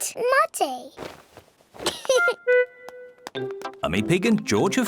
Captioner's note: giggles